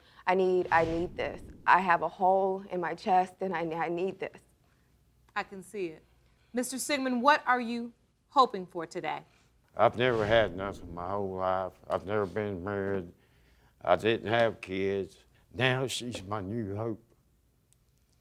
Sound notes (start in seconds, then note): none